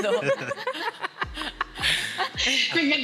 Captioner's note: laughter